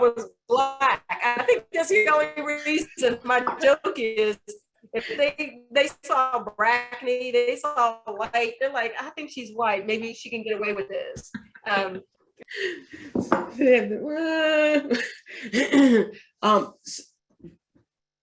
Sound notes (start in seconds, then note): 11.4 laughs